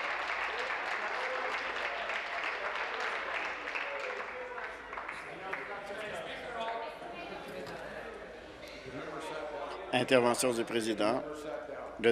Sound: applause

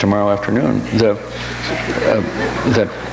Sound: audience laughs

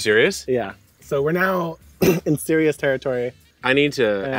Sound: coughs

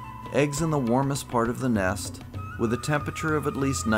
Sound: none

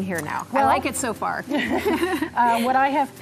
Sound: chuckles

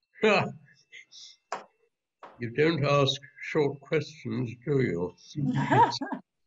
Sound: chuckles

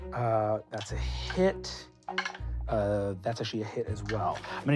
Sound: rolling dice; rolling dice

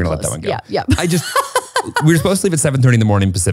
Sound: laughs

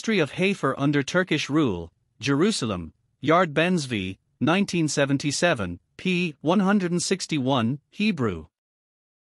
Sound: Hebrew

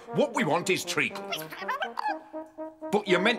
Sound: Boggart gibbering

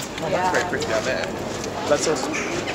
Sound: murmers

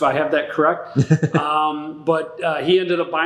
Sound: laughing

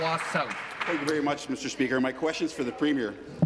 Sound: applause

